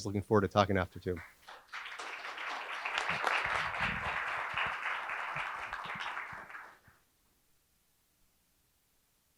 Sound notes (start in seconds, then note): 1.2 audience applauding